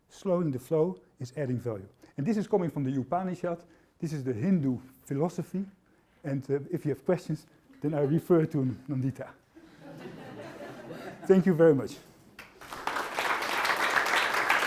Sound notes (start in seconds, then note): 9.6 laughter; 12.3 applause